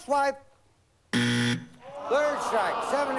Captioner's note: buzzer